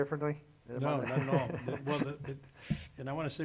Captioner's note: laughs